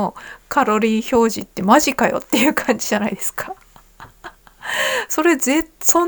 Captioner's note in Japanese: 笑い